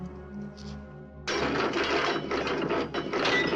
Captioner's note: clanging